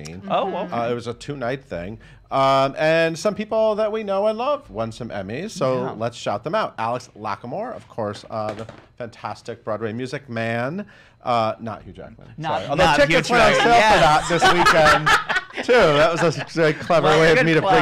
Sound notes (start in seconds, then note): 13.4 laughing